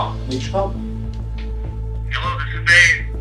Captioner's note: on phone